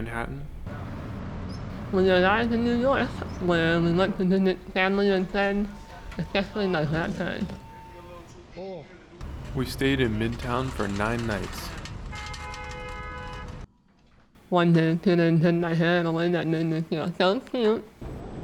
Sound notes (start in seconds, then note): 9.3 hand truck rattling loudly; 12.0 car honks aggressively